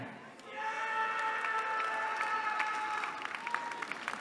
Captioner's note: cheering